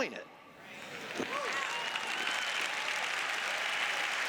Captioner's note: cheers; applause